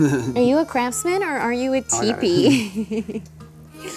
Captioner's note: laughs